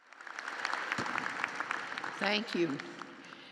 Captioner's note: applause